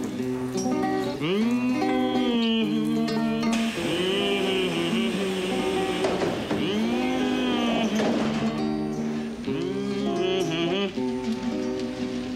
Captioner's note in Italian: canticchia